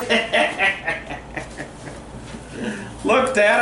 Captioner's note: white noise scratching; laughing